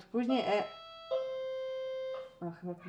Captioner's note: door bell